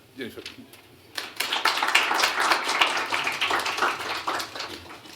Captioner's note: applause